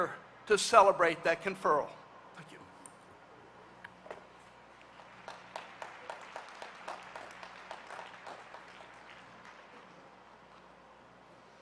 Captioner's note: applause